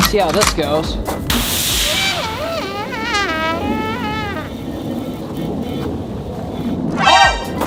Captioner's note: water splashing; sad trumpet sound